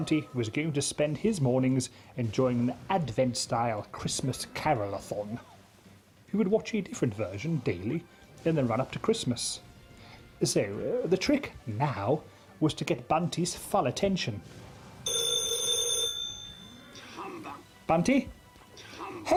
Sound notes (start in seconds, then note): 15.0 phone ringing